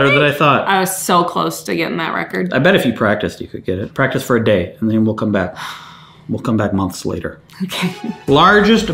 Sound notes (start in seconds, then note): 6.2 exhales loudly